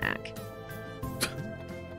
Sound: chuckles

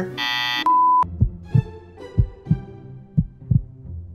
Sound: beep; heartbeat

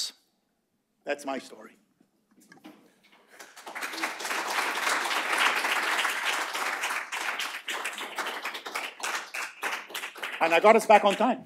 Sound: applause

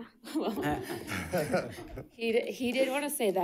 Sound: audience chuckling

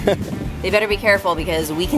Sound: laughs

